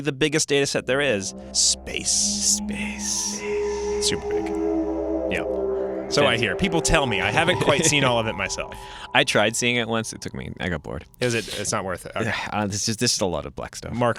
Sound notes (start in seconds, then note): 2.9 echoing; 3.8 creepy music